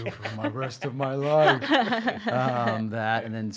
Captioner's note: chuckling